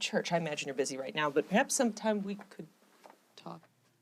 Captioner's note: none